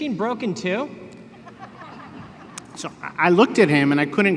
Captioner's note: laughter